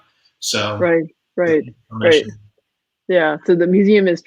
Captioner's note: voice muffled